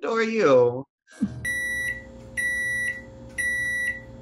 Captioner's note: beeping starts